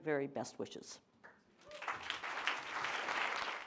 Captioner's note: applause